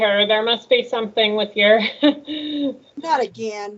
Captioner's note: laughs